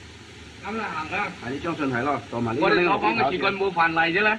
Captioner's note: speaking Chinese